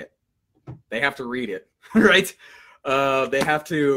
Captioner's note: laughs